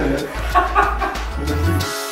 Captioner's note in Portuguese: Risada de idiota